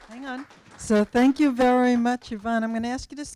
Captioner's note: applause